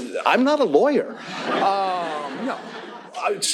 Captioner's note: laughter